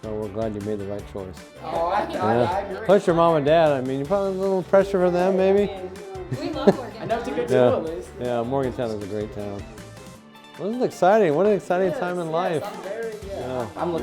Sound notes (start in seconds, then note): 2.0 group laughing